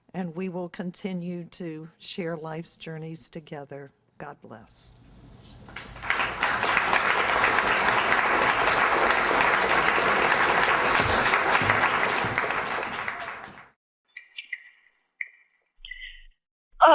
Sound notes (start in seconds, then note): 5.7 applause